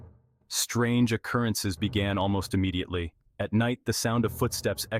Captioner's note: voice-over